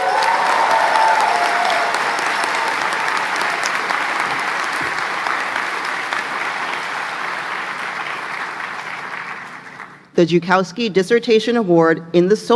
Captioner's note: applause